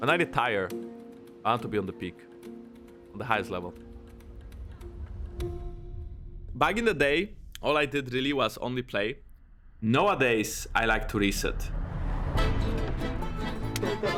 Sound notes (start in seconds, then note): 4.3 clock ticking; 12.3 playful music playing